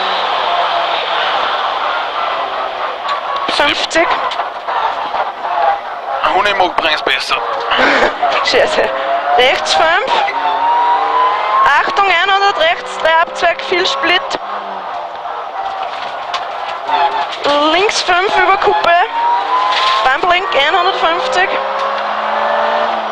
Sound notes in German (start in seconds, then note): 7.5 laughing . . . shit